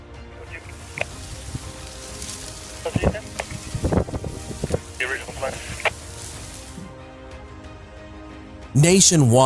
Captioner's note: radio traffic